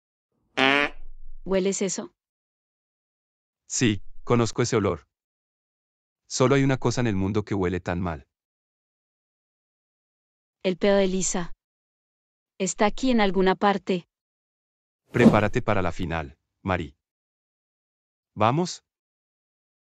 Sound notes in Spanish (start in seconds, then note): 15.2 FX - Whoosh - 03